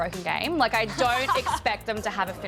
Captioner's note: laughs